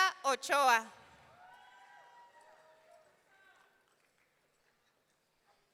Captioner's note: audience cheering